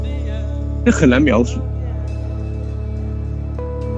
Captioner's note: speaking Mandarin Chinese